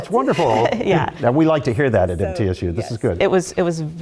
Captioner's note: laugh